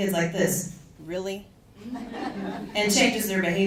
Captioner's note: audience chuckles